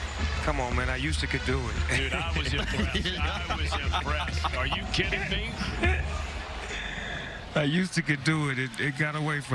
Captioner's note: laughter